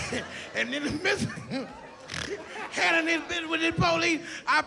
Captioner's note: laughs